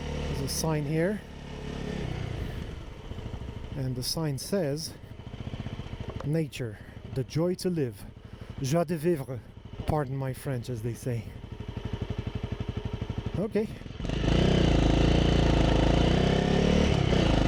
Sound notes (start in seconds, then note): 8.7 French